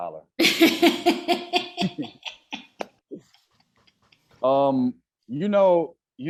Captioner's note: laughing